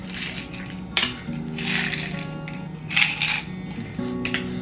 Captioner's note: pills rattling